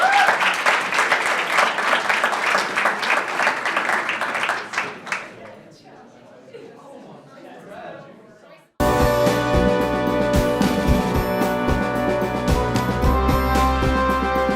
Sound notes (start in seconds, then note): 0.0 audience applauding and cheering; 6.4 audience chattering